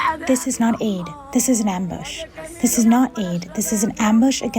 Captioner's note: through translator